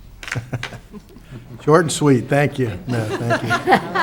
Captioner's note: laughs